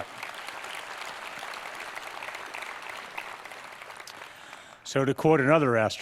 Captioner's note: applause